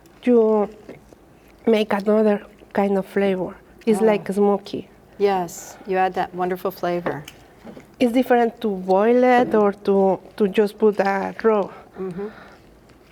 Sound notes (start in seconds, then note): none